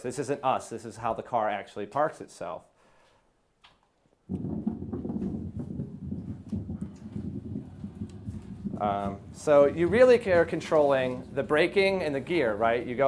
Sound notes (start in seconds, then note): none